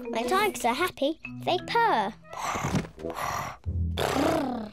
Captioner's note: all purring; purring